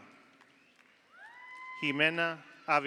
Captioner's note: audience applauds; audience cheers